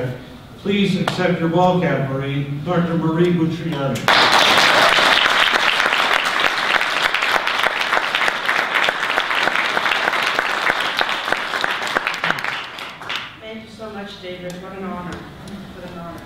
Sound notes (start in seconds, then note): 4.0 audience applause